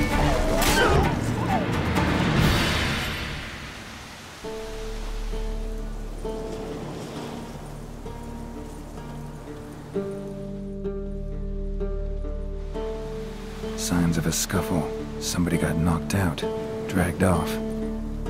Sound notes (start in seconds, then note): 0.0 whimper